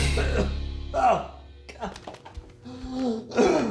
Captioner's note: Florio coughs loudly; Florio breathes heavily